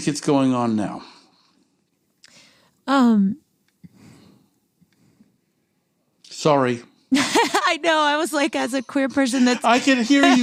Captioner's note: laughs